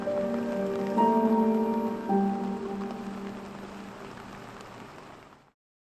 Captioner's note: rain falling